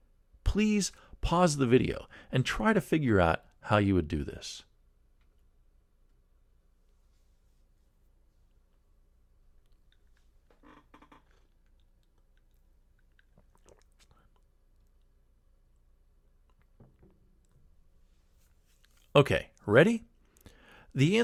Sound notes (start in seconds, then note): 4.8 pause